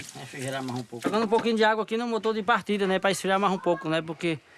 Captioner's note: Portuguese spoken audio